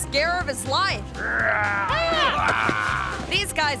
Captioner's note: prankster growling